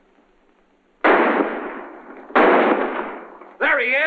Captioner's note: gunshots